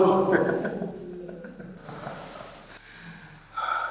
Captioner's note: laughs